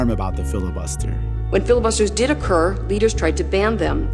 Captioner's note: soundbite of archived recording